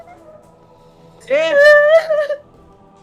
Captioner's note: Erin cries